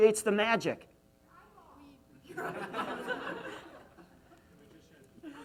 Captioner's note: audience mumbling